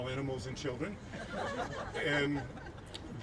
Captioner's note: laughing